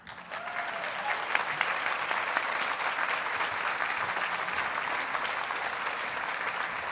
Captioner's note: audience cheers and applauds